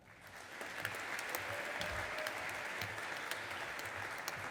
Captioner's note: audience applauding